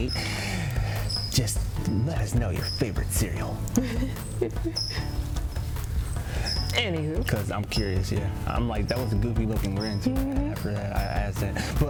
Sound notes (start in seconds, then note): 3.7 giggles